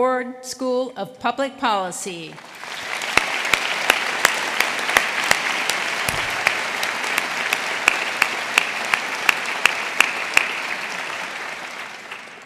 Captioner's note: applause